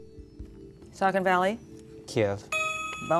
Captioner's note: ding